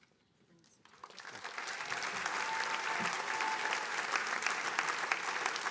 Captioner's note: attendees cheering and applauding